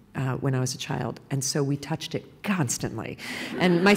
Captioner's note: laughter